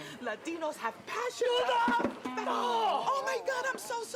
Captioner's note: rabbi yelling while falling